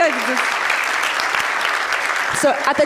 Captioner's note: applause